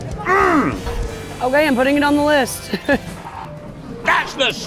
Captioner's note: laughs